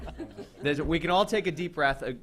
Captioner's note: laughter